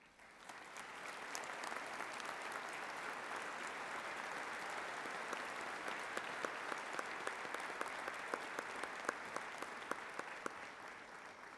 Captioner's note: applause